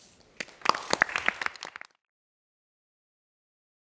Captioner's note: applause